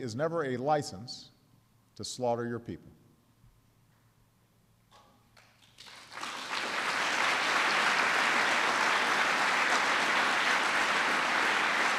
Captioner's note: applause